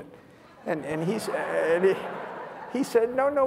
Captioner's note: laughter